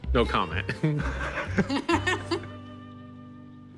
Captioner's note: laughs; Corey chuckles